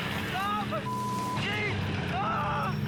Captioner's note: beep